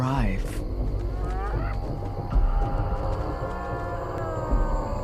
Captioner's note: hyenas chattering